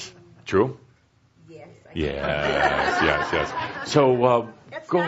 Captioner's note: laughter